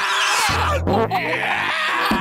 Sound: screaming; farting; screaming

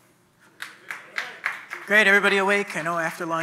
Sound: audience clapping

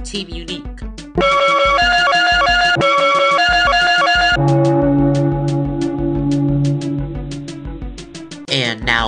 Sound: board sound effect

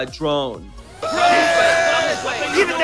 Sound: shouting

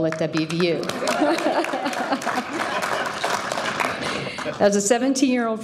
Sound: audience cheering and applauding

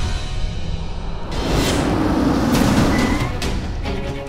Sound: car brakes

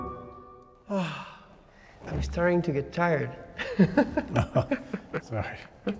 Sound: laughs

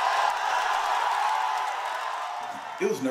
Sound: crowd cheering

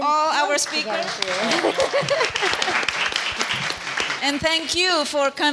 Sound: audience applauds; laughs

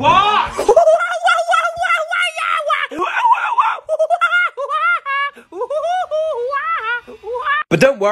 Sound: monkey laugh

